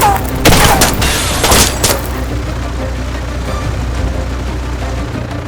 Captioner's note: glass shattering